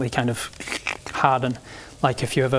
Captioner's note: krck!